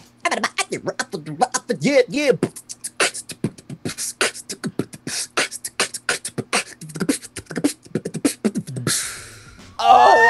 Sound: beatboxing

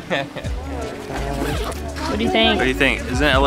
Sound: laugh; zipper closes

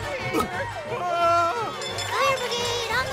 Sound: screaming

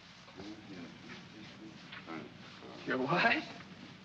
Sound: Shtiva mumbles in German

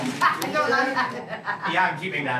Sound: all laughing

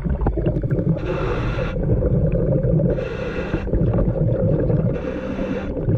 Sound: water bubbling; scuba breathing

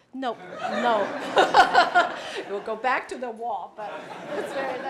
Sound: laugh

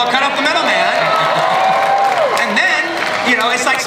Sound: audience cheering

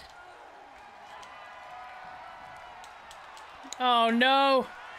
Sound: applause

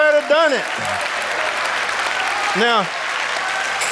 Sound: audience applauding

